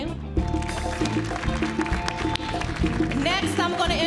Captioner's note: audience applauds